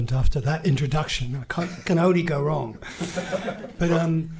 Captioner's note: laughing